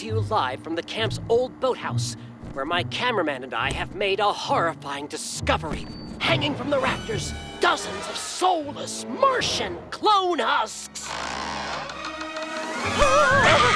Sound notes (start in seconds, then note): 11.0 creaking; 12.7 screaming